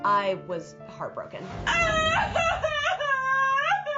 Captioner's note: crying